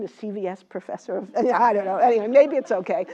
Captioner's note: laugh